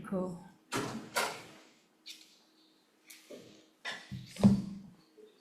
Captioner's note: door latch catching